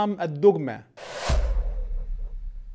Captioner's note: sound effects